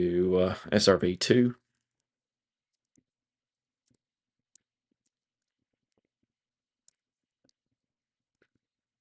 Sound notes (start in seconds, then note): 6.8 mouse clicking